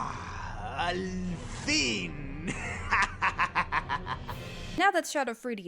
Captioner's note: evil laughter